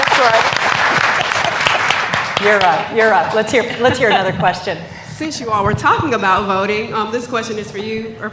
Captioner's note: applause